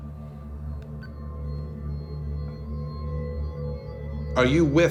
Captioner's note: recorder beeps